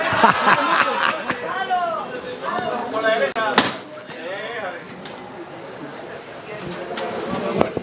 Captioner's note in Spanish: Risas